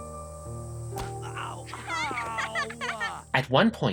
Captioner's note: Makoto laughing; Chiaki groans